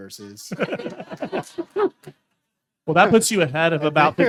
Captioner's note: everyone laughing